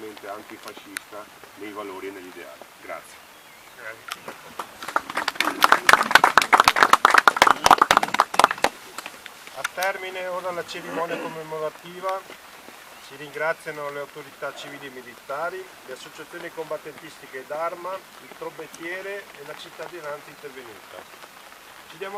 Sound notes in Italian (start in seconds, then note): 8.4 Applauso